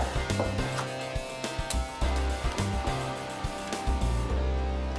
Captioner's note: door clicks